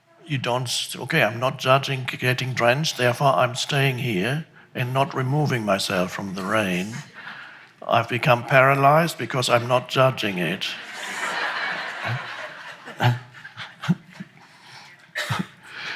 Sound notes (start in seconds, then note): 10.3 audience laughs; 13.1 laughs